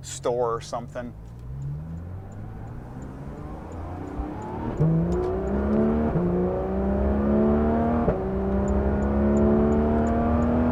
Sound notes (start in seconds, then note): 0.9 turn signal beeping; 1.2 engine revving